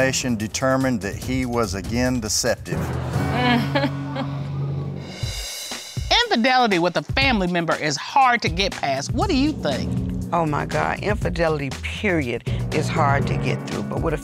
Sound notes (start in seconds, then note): 4.4 chuckles